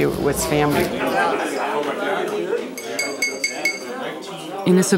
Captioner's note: guests chattering; glass clinking